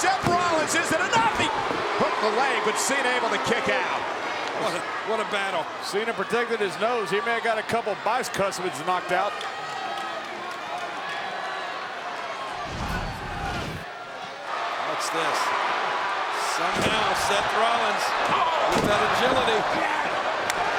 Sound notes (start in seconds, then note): 12.8 graphics whooshing; 18.4 blow thudding; 18.7 feet thudding